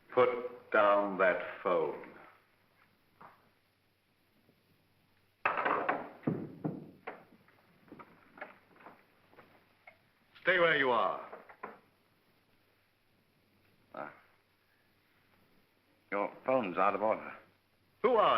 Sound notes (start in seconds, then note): 5.4 phone clatters down